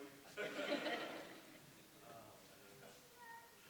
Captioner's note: audience laughs